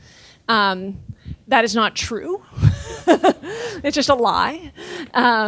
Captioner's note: laughing